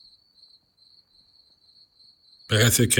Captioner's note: crickets chirping